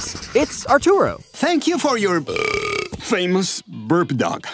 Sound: belching

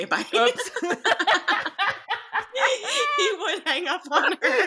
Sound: both laughing

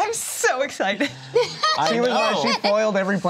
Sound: laughs

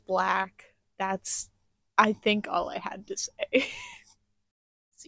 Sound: laughter

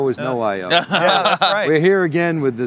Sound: laughter

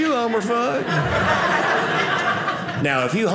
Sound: audience laughing

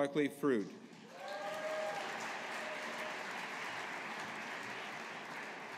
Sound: audience applauding

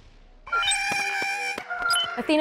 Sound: Porg sounds

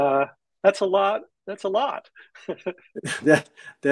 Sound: laughing

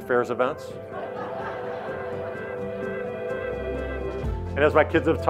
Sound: audience laughing

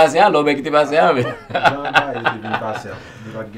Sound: laughing

